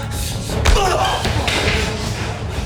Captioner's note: punch thudding; suspenseful music